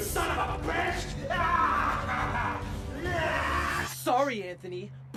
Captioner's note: laughs